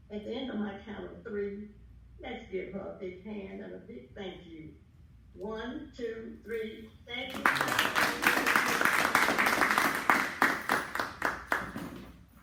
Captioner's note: clapping